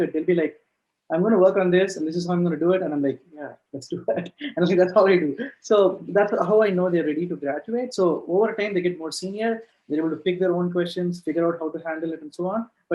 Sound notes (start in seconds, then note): 3.8 laughs